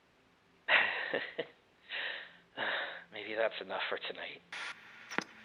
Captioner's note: chuckles; static